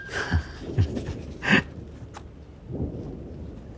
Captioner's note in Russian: смеется